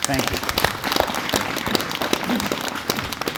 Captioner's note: audience Applauding